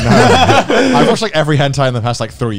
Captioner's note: both laugh